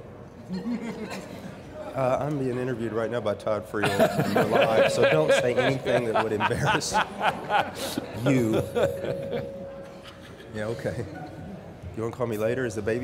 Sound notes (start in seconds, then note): 1.1 crowd laughing; 3.8 laughing; 8.7 more laughter